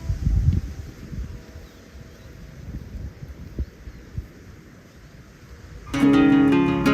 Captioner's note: wind blowing